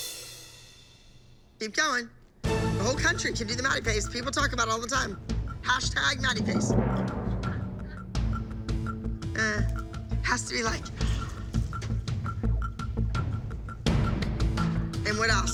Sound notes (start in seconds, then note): 10.9 gasps